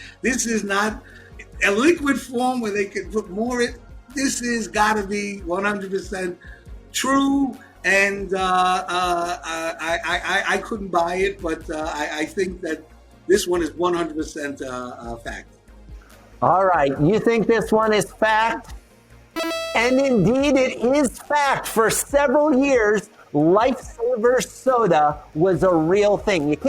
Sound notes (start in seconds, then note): 19.4 correct buzzer noise